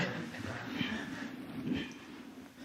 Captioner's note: laughs